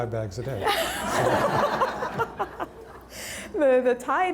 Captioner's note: everyone laughing